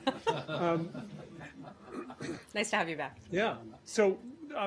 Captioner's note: laughter